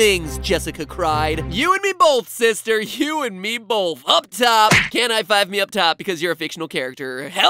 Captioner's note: slap